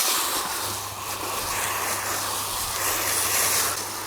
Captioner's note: water spraying